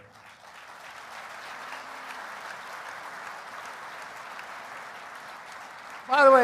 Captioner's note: applause